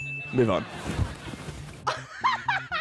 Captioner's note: laughs